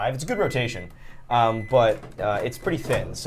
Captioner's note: microwave beeping